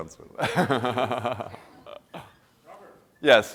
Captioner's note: laughs